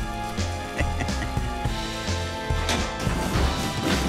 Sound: chuckles

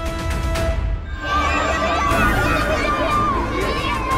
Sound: children screaming

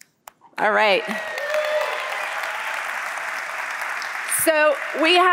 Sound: applause

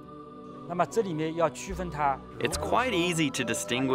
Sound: speaking Chinese

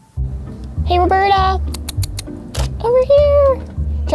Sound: kissing teeth

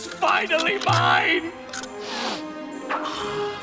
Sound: sniffing

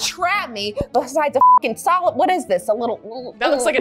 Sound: beep

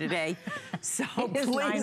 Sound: laughter

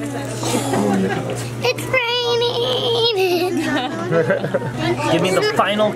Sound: chuckles

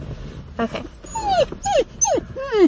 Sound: whining

